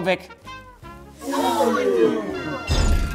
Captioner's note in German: Angeekelte Laute